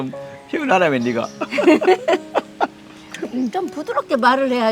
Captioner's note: both laughing